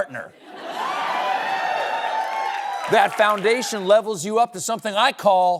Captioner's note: laughter; cheering